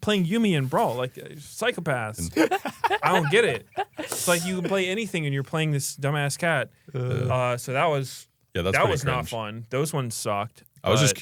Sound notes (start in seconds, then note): 2.1 laughs